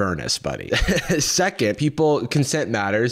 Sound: laughs

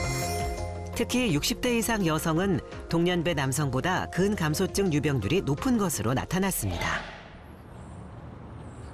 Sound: voiceover

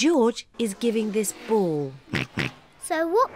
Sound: oinks

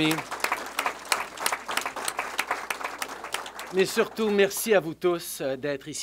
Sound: applause

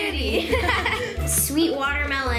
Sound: laughs

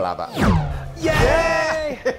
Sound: air swooshing

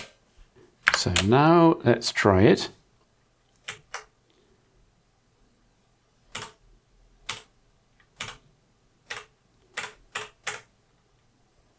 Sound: blank Audio

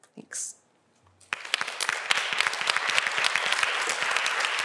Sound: applause

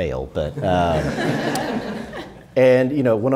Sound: audience laughing

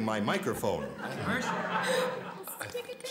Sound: laughter

